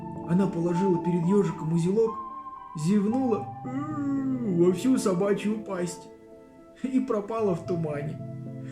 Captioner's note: yawns